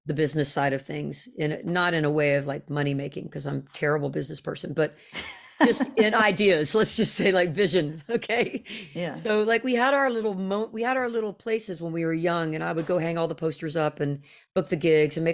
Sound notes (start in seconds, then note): 5.1 laughs